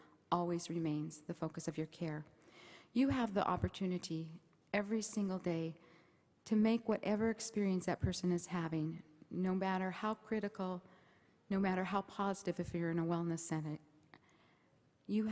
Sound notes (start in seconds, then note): none